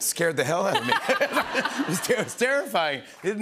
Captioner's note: laughter